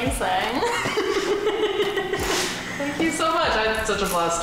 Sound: laughing

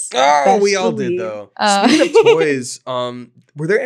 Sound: laughing

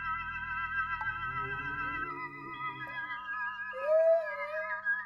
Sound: ghosts moaning; child crying

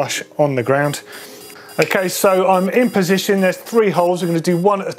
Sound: digital beeps

